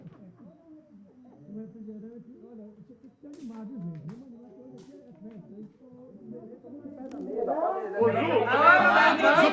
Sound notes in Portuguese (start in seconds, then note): 2.7 vozes ao fundo